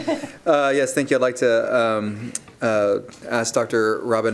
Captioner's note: laughter